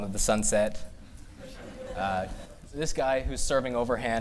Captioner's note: laughter